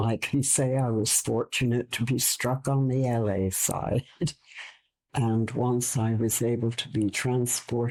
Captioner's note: chuckle